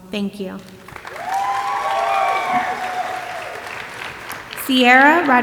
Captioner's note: audience applauding and cheering